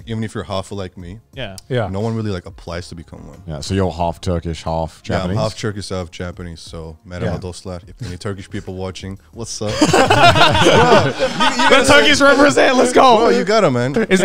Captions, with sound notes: even if your half like me. No one really applies to become one. - So you're half- Turkish, half-Japanese? - Yeah, I'm half-Turkish, half-Japanese. So, (speaking in foreign language) if there are any Turkish people watching, what's up. (all laughing) - That Turkish represent, let's go. - You got it man.